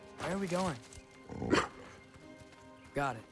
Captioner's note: bark